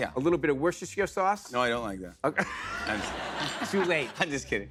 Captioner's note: laughter